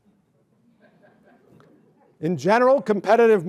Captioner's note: laughter